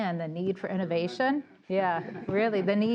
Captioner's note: laughter